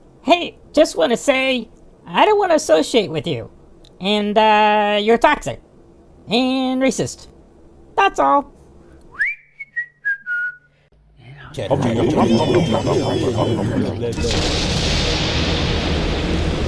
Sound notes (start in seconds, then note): 9.1 Zack whistles and walks away; 11.3 group mumbles, grumbles, and wonders what just happened